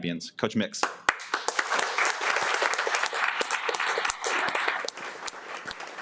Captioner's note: audience applauding